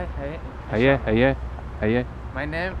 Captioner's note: somali